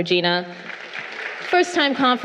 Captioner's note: crowd applauding